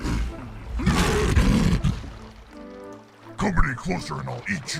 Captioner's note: lion roaring